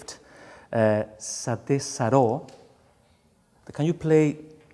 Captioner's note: speaks in foreign language